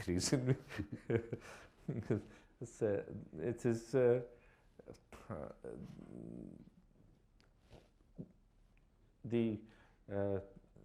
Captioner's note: chuckles